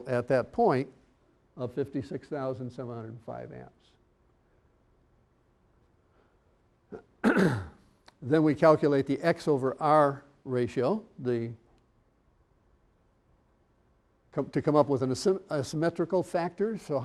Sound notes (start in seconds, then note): 6.9 clearing throat